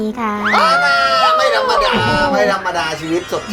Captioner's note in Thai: โห่ร้อง